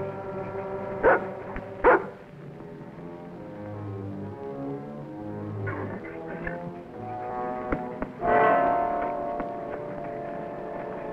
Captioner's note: Rebel barking